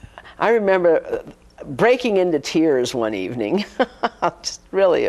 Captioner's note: laughs